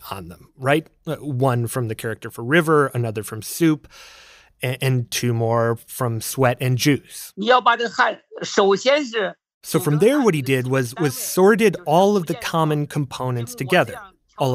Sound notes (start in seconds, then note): 8.1 speaking Mandarin